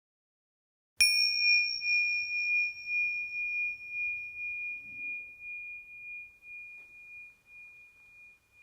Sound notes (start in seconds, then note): 1.0 bell chimes